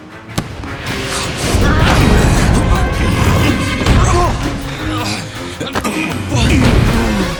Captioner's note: Bailey groaning; Gee grunting